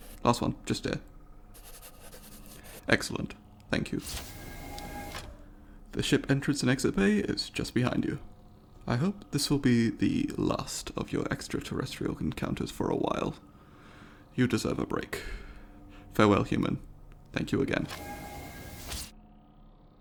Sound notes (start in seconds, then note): 0.0 pencil scribbling; 1.5 pencil scribbling; 3.9 door opening; 17.7 door closing